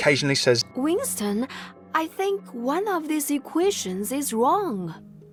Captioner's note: voiceover